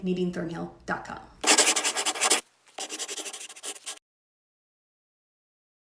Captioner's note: scribbling